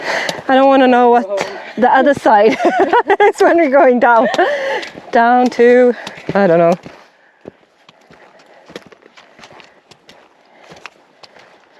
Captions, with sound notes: I don't want to know what the other side [laughs] is when we're going down. Down to-- I don't know.